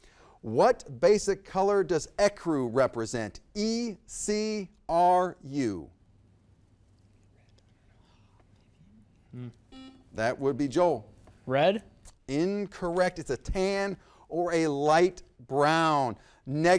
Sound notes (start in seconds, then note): 8.2 whispers; 8.5 exhales deeply; 9.7 buzzer beeps